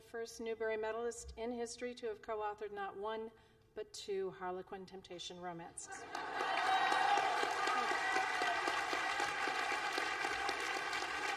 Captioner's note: laughter and Applause